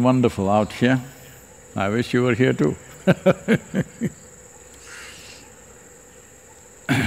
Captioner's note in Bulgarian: смее се